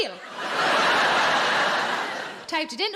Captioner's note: audience laughing